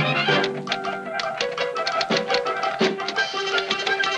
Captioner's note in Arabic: نقر الآلة الكاتبة